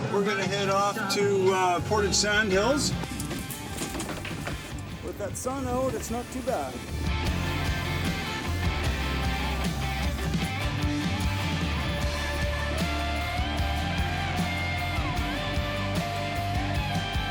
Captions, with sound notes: We're gonna head off to Portage sand hills. With that sun out, it's not too bad! (rock music) (dirt bike engine revving) (rock music continues)